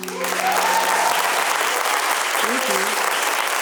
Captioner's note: applause